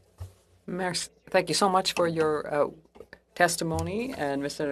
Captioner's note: speaking French